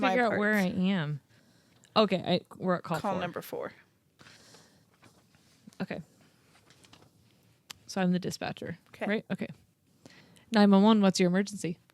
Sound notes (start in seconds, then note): 3.8 paper rustling